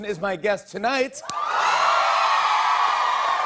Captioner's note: cheers and applause